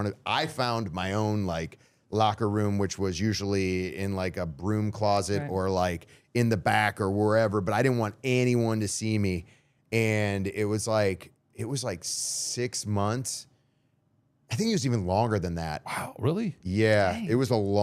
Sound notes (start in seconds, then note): none